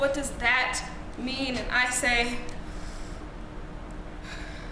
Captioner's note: deep breath